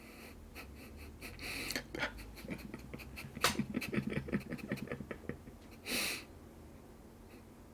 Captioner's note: laughter